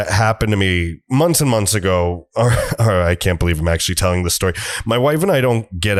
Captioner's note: chuckle